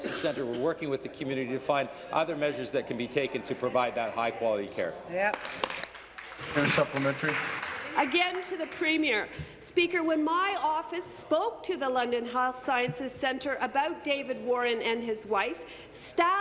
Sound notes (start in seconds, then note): 9.0 applause